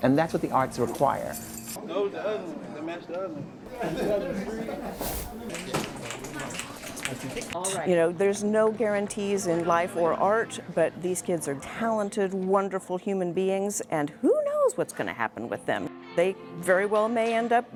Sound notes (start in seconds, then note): 3.6 indistinct chatter